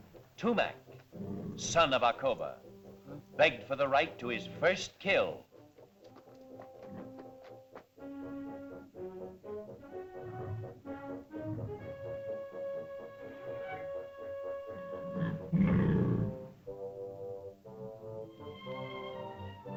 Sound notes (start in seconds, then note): 0.0 dinosaur growls; 8.0 suspenseful music; 14.8 dinosaur growls; 16.6 suspenseful music